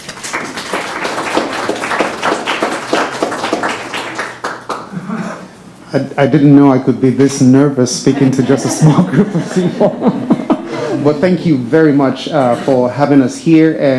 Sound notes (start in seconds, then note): 0.0 board members clapping; 8.0 chuckles